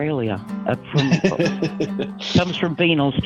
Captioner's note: laughing